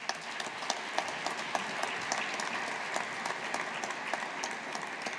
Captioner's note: audience applauding